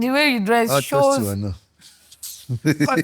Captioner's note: laughs